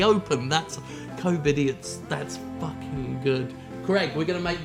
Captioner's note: quieter